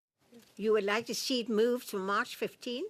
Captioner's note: speaking French